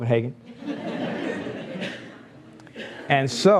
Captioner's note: laughs